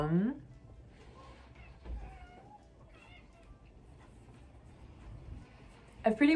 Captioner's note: desperate meows for fancy feast in the background